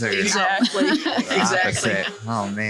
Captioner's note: laughs